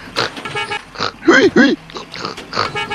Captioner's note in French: bip bip